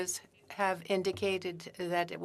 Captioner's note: speaking French